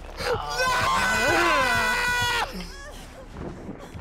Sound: screaming

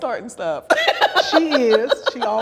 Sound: laughs loudly

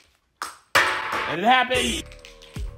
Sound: bean rattling; bean clacking; bean twanging

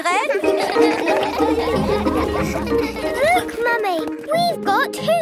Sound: all laugh

